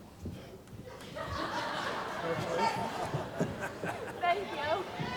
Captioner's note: laughter